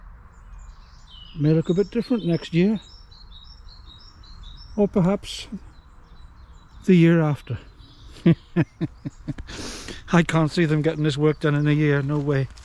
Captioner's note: giggles